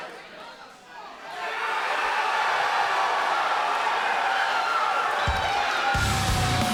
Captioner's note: cheers & applause